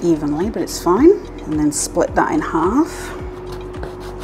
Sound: slicing

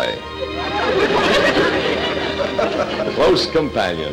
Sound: audience laughter

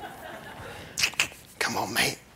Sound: laughter; laughs

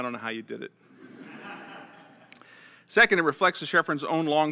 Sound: laugh

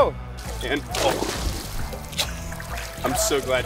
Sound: water splashing; laughs

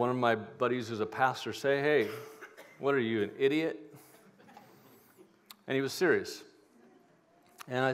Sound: laughter

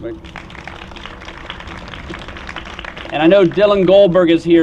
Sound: applause

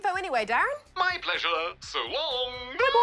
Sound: laughs

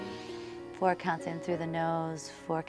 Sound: inhales

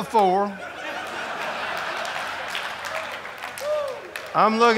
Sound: audience laughing

